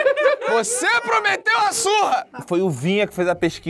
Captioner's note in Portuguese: risadas